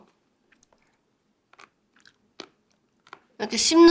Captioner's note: chew